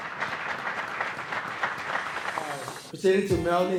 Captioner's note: applause